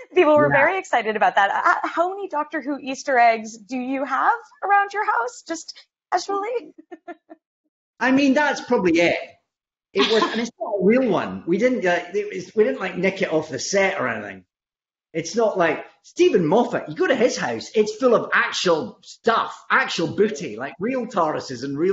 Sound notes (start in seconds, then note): 6.6 laughs